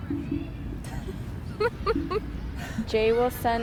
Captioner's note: laughter